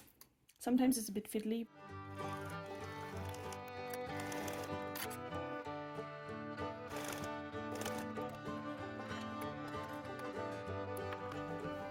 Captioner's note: sewing machine noise; violin music